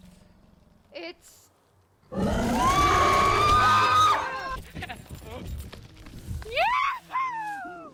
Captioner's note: A big roar followed by screams